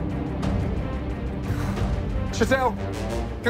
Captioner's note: relieved sigh